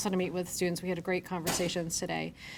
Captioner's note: object thudding